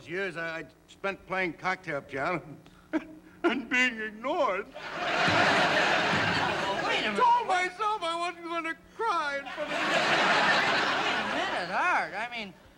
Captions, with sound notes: that I spent playing cocktail piano... [ Sobs ] ...and being ignored. [ Laughter ] Well, wait a minute-- I told myself I wasn't gonna cry in front of you! [ Laughter ] Wait a minute, Art, I mean...